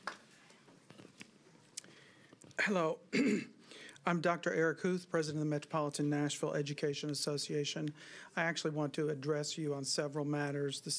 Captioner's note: applause